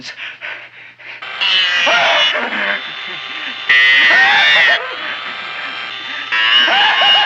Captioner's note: drill whirring; Wilbur laughing